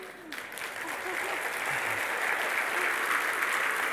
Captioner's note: Lachen und Applaus